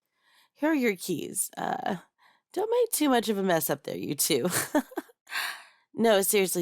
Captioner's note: laugh